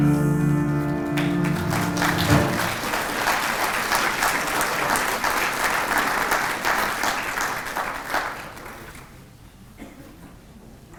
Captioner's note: applause